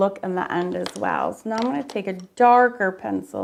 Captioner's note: pencil clanks